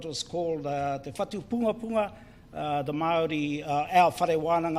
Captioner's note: speaks in foreign language